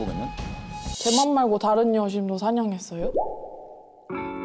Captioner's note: sounding upset